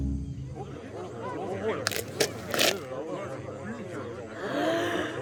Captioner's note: crowd murmurs; yawning